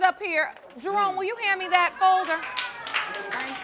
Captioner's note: audience applauding